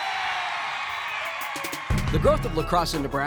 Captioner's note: cheering